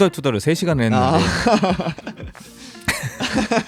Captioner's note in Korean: 웃음